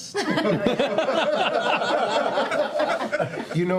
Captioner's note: laughter